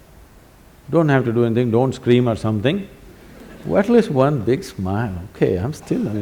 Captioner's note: laughter